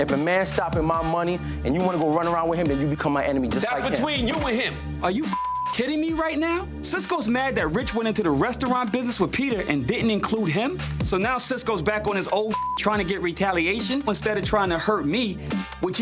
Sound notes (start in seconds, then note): 5.2 beep; 12.4 beep